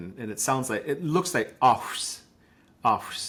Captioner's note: speaking in Lushootseed language